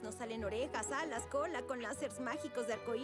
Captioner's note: none